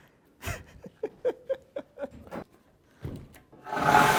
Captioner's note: laughing